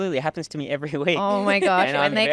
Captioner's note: laughing